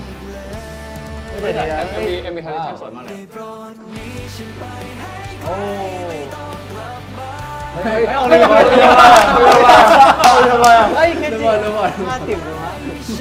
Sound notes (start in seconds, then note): 9.3 I’m dying laughing; 9.3 laughs